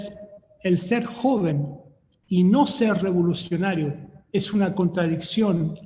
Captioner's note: speaking in foreign language